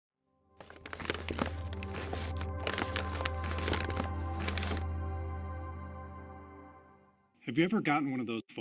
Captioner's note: paper Crinkling